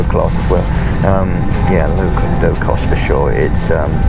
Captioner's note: laughs